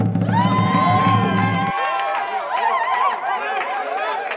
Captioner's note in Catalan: Aplaudiments i aclamacions